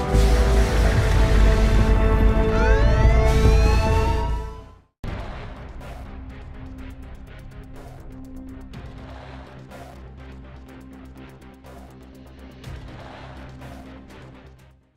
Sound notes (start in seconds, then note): 2.3 siren wails